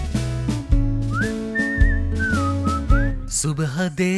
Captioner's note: whistle